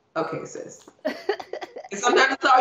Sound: laughing

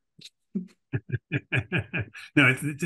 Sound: laughs

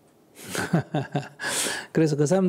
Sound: laughter

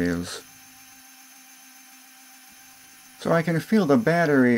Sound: drilling sound

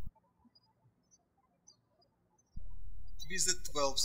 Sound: birds chirping

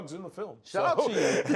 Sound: laughs

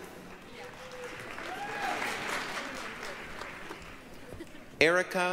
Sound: applause, cheering

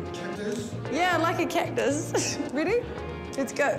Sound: chuckles

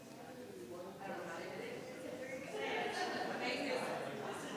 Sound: crowd chattering

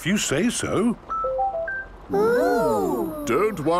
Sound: car chiming

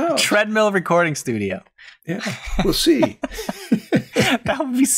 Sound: laughter

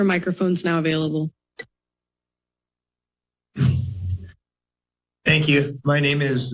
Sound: silence

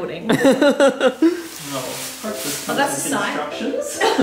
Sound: laughs

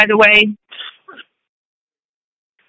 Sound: silence

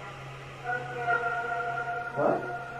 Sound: female voice

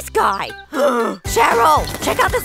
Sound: gasping

